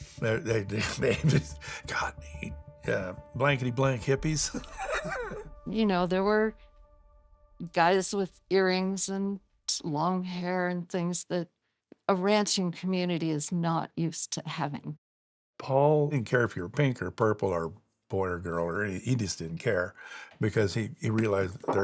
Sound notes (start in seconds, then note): 4.4 laughs